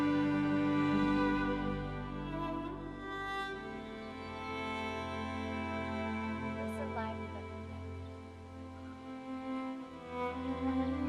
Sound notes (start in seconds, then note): 1.9 birds chirping; 4.2 gentle music